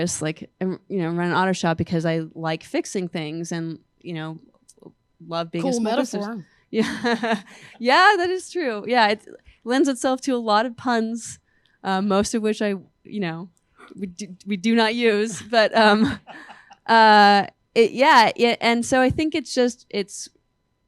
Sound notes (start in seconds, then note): 7.2 laughs